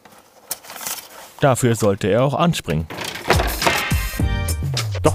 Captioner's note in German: Klackern